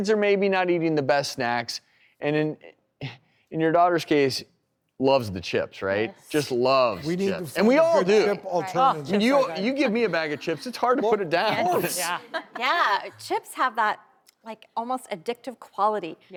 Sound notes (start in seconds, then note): 5.1 chuckles; 11.9 laughter